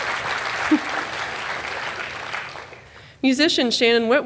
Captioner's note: applause